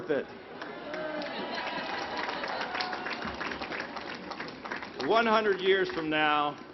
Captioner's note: laughter